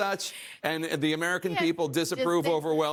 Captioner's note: laughter